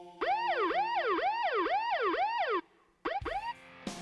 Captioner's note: chanting music; police sirens blaring